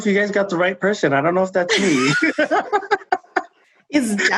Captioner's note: laughing